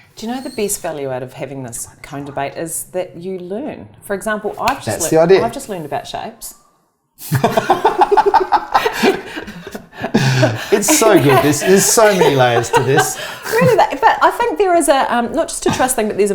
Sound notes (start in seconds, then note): 7.3 laughing